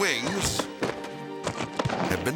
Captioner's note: thudding